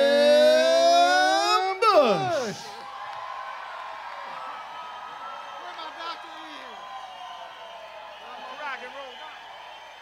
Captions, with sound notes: (audience cheers) (audience applauds) - I'm a rock and roll guy.